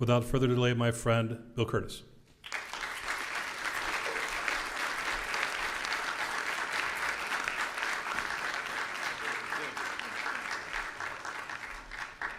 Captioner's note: applause